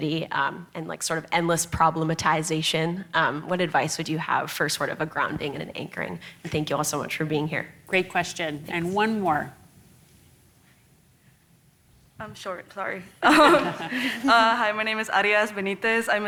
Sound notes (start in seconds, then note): 13.2 audience laughs